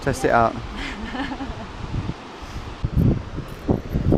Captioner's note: laughs